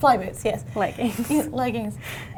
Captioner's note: laughs